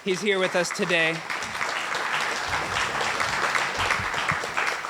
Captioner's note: applauding